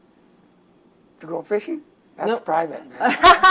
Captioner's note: laughter